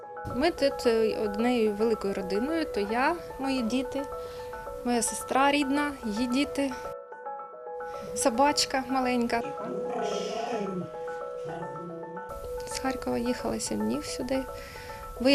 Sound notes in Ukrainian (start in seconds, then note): 9.4 Пес ричить